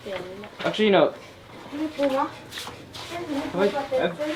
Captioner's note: foreign language